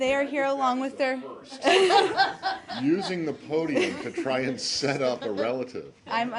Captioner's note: laughter